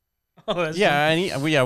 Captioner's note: laughs